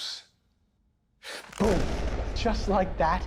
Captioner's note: gunshot booms